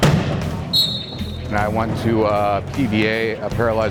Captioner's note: wheelchairs collide. A referee whistles